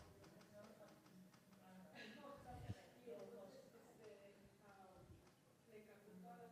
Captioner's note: woman speaks in foreign language